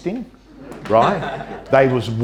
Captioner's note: audience laughter